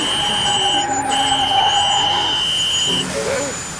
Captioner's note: tires screeching